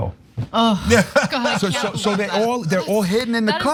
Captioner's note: laugh